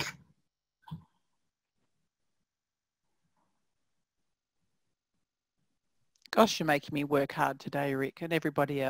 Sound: pause

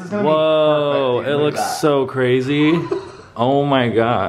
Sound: laughs

